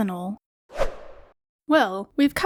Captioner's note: whoosh Sound